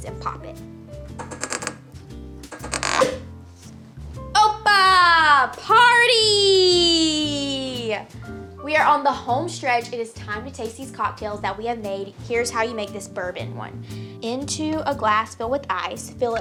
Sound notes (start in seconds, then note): 2.4 popping; 2.5 twisting cork